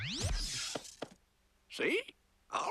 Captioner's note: whoosh